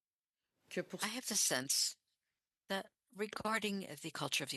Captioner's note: speaking French